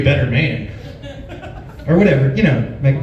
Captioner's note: laughs